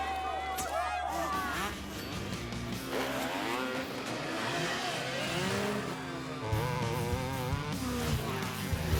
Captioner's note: buzzing engines